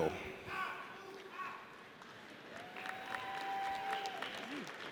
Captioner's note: audience applauds